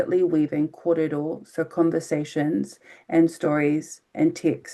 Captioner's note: speaking in foreign language